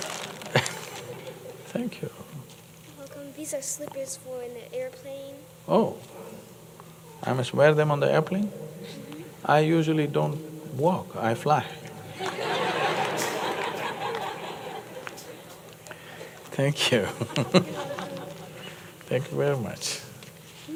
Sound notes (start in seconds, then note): 12.1 laughter; 16.8 laughs